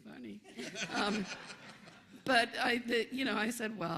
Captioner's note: laughter